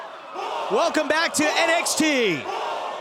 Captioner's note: fans chanting